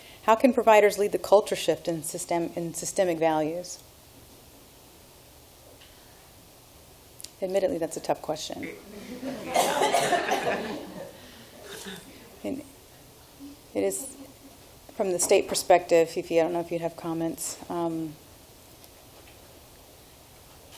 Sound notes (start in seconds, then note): 8.7 laughing